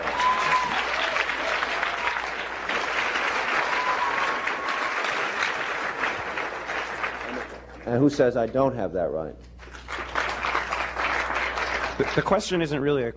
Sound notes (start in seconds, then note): 0.0 cheering, applause; 9.5 applause